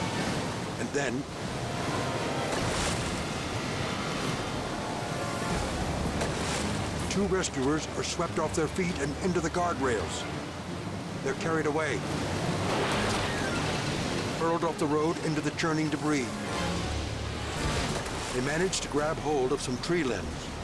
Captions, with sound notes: And then- (water splashes) (tense music) (water splashes) Two rescuers are swept off their feet and into the guard rails. They're carried away. Hurled off the road into the churning debris. (dramatic music) They manage to grab hold of some tree limbs.